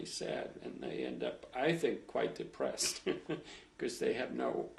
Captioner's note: laughs